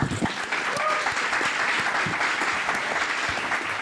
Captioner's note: applause